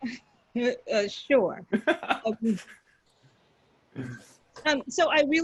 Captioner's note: panelists laughing